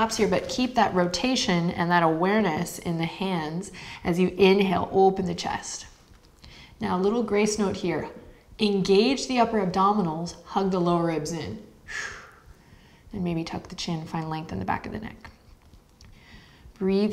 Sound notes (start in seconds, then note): 11.8 exhaling breath